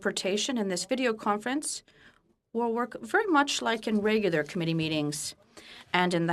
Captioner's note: speaking French